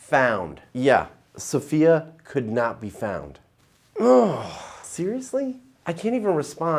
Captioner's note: groans